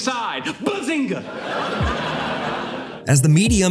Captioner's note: laughter